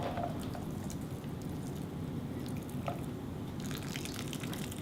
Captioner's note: liquid splashing